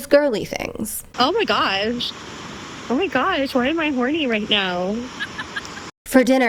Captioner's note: hoots